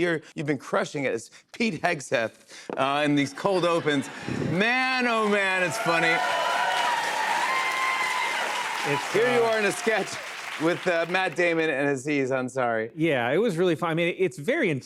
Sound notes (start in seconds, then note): 6.5 cheers and applause